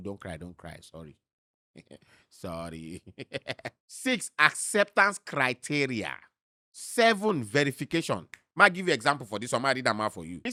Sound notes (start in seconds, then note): 2.6 chuckles; 2.7 laughs